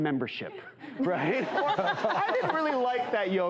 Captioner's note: laughter